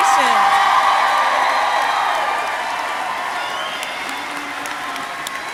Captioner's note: crowd cheering and applauding